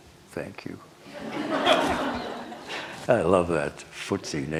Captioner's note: laughter